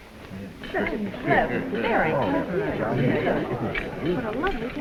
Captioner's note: crowd chattering